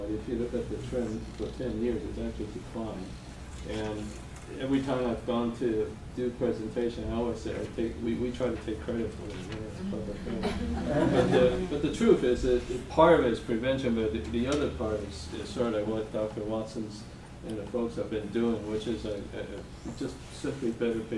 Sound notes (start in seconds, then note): 10.3 laughter